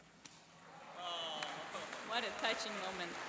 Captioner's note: cheering